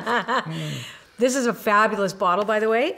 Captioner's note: laughs; laughter